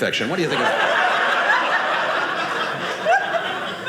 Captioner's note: audience laughing